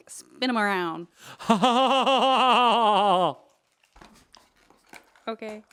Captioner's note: laughing dramatically